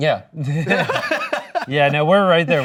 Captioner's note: laughing